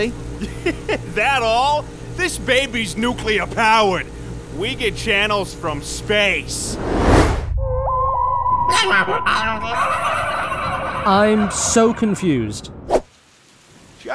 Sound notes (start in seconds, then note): 8.7 canned turkey laughter